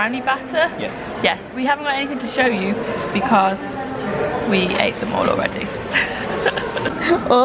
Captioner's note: laugh